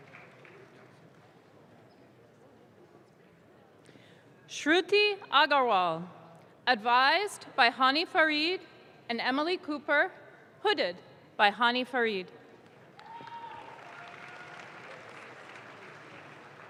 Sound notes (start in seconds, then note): 12.8 audience claps